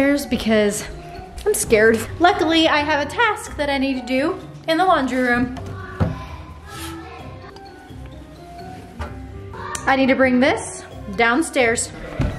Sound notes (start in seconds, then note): 5.6 kids talking distantly